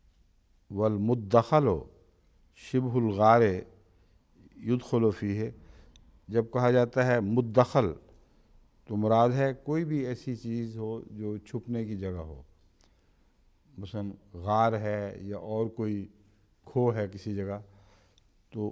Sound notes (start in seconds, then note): 0.7 Arabic